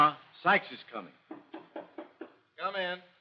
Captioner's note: knocking